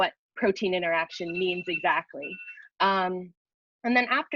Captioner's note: phone rings